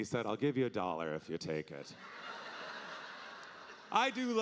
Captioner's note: audience laughing